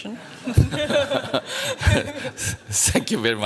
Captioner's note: laughter